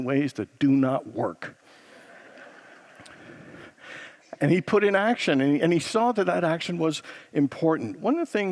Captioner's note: congregants laugh